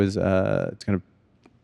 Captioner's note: none